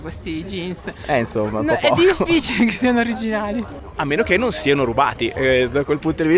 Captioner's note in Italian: risate